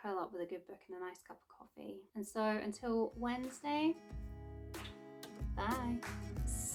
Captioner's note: kiss